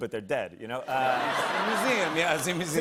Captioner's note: laughter